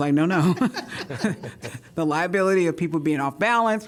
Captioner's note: laughter